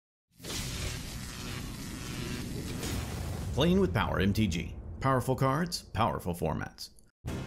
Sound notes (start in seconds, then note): 0.6 lights buzzing